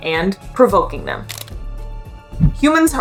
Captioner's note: background music; camera click sound